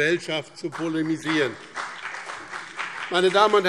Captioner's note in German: Beifall BÜNDNIS 90/DIE GRÜNEN